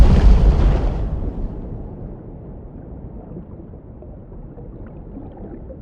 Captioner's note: underwater sound